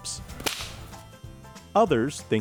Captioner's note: whip cracking